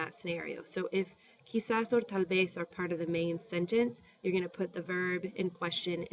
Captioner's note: spanish